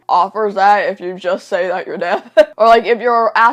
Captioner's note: laughs